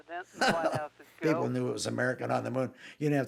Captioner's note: laughing